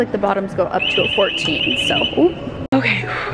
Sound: alarm sounds

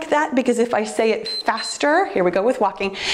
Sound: timer beeps

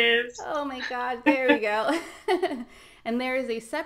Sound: laughs

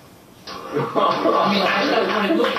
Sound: applause

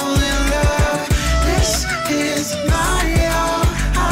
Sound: deep female voice

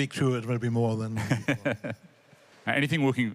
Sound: laughter

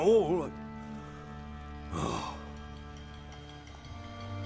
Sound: dejected sigh

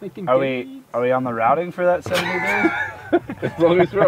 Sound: laughter

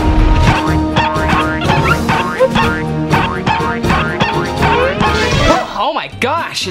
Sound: boings; squeaking

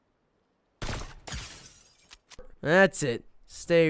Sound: gunfire

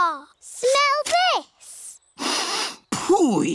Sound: sniffs

